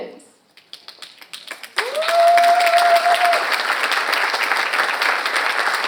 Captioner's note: audience applauds